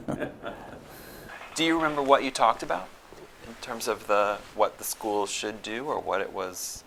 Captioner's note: laughter